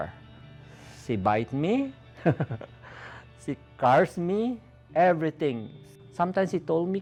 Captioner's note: chuckle